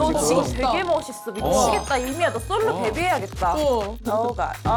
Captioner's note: glowing sound effect